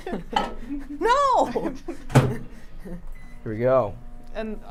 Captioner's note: laughs